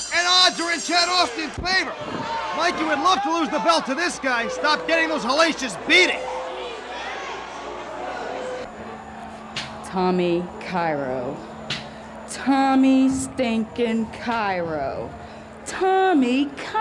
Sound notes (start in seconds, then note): 14.2 crowd chatter